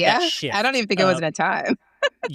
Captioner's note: chuckles